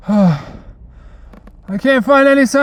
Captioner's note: Jack deeply exhales